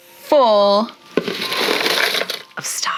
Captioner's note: plastic rattling